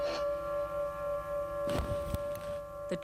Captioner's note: explosion